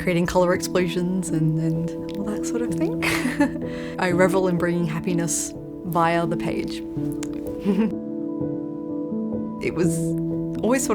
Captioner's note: laughs